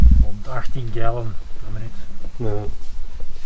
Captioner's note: gas pump